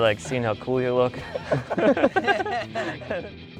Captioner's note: laughter